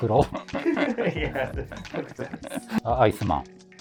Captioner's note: laughing